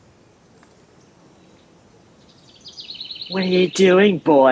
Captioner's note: birds chirping